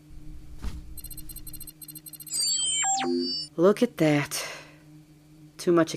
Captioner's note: machine noises